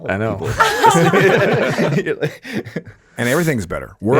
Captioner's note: all laughing